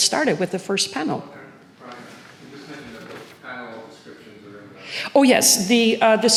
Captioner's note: man speaks from a distance